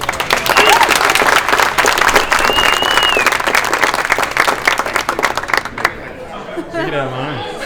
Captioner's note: crowd Cheering